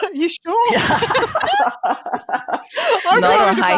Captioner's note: laughter